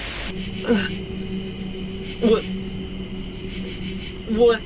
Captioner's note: moaning in pain